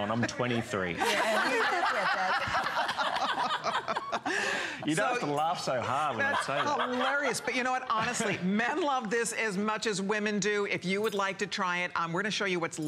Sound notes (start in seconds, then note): 5.8 laughter